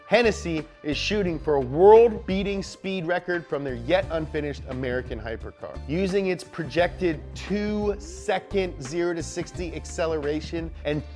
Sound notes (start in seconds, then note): none